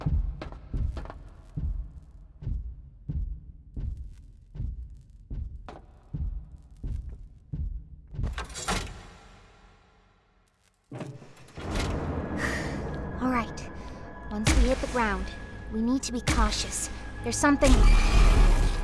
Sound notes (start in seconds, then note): 1.7 heart beating